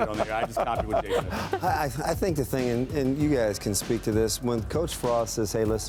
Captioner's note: laughter